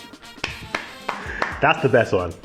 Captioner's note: claps